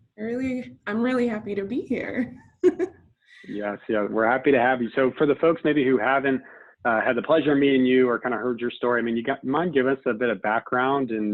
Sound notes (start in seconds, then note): 3.4 laughs